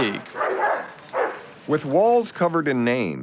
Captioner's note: dog barking